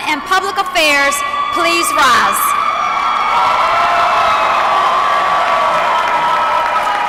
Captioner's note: applause